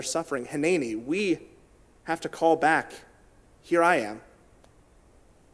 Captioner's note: in Hebrew